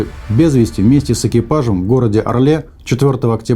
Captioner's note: boom sound